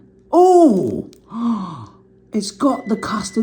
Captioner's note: gasping